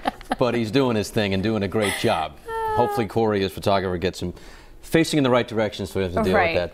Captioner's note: laughter